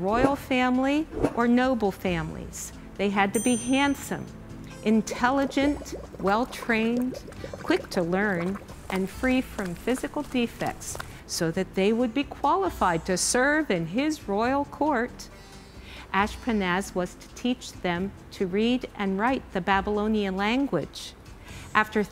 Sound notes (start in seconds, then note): 3.3 bell ding; 7.6 bubbles